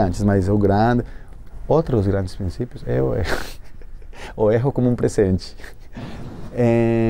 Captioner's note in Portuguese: risos